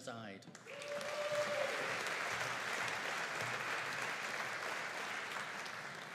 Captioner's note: audience cheering and applauding